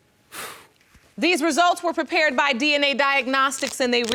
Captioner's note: sighs; exhales